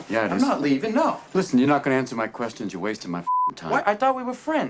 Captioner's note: beeping